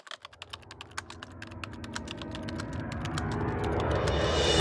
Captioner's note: typewriter sounds